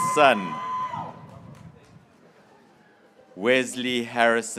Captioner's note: graduates cheering